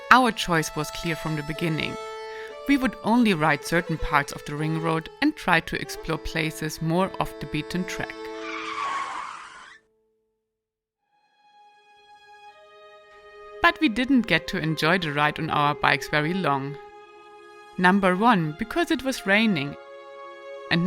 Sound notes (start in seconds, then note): 8.4 motorcycle tire screeching; 11.2 gentle music